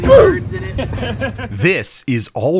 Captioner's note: laughter